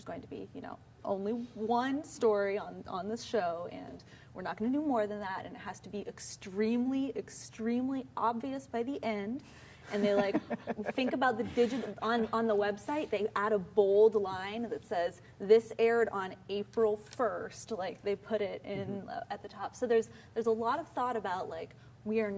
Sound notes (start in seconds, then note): 9.9 laughs